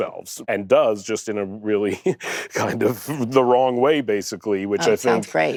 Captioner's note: laughs